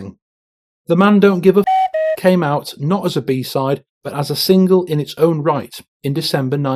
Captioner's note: cuckoo